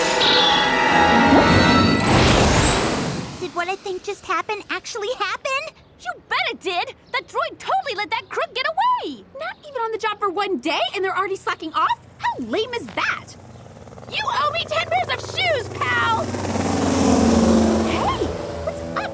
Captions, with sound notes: Baddie coming right at you! [beeping] Did what I think just happened actually happen? You bet it did. That droid totally let that crook get away. Not even on the job for one day, and they're already slacking off? How lame is that?